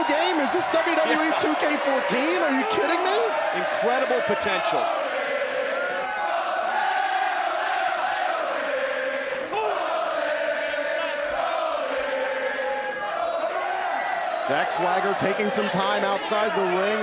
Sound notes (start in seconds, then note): 4.9 crowd cheering